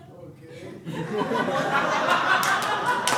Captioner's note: audience laughing